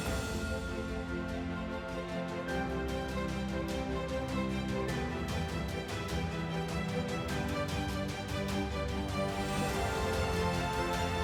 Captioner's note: applause